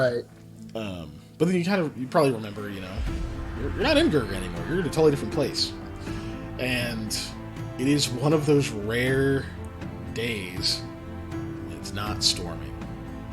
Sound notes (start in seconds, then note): none